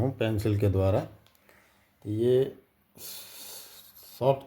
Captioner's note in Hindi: नाक से की जाने वाली आवाज़